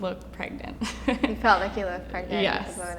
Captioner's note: laughing